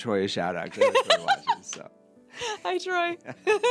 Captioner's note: laughing